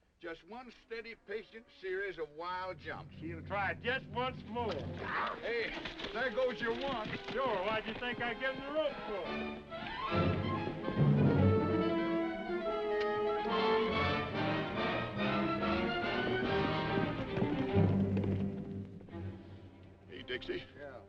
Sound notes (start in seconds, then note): 4.7 horse hooves clopping; 10.1 dramatic music; 13.0 horse hooves clopping; 15.9 dramatic music